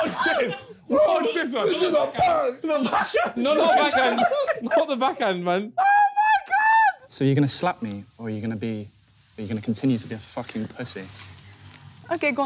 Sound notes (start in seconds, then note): 3.1 screaming